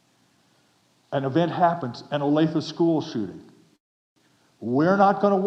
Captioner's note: none